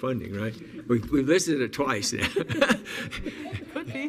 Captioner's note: laughs